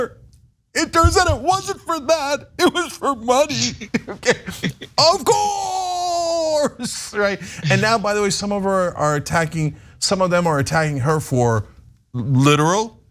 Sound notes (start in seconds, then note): 3.4 laugh